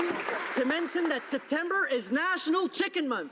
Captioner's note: applause